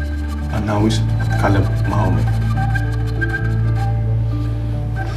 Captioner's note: speaking in arabic